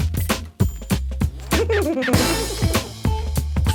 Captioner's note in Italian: risatine provengono dall'interno della casa